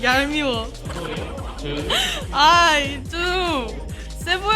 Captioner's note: laughing